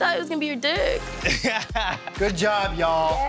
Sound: laughs

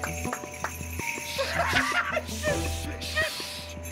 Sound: laughs

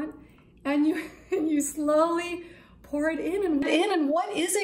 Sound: laughs

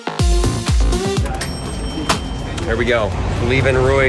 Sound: upbeat music; cash register rings

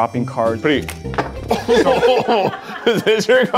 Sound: laughs

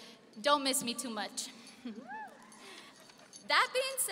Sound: laughing

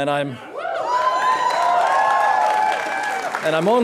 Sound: crowd cheering

